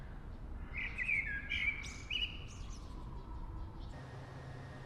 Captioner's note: birds chirping